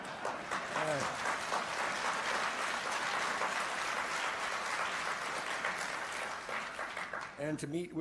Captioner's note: laughter and applause